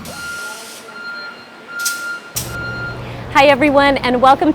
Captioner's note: beeping